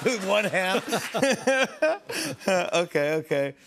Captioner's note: laughs